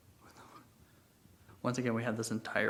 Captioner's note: whispers